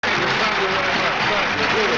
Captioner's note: audience applauds